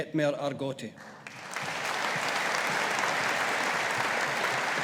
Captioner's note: audience applauding